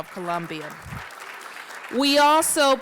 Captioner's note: applause